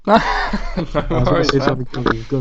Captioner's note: laughs